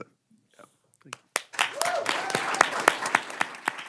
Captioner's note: chorus of ayes